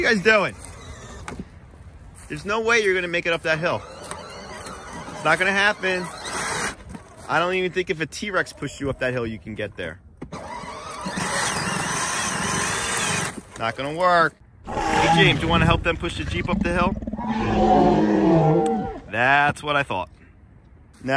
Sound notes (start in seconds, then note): 3.8 motor buzzing; 10.3 motor buzzing; 14.6 dinosaur roars